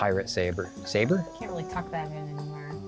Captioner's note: pat